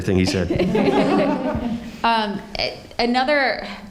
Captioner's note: audience laughing